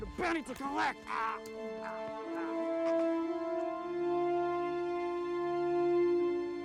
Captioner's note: inspirational music; Daniel groaning